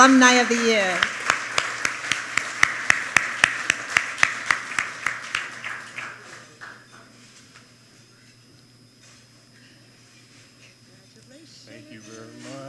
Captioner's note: applause